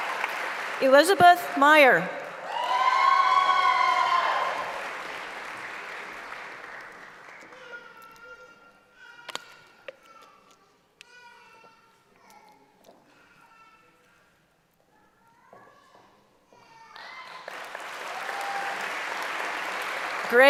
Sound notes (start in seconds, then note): 5.3 cheering; 8.2 applause; 16.9 applause